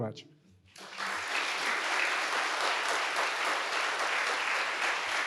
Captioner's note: audience applauding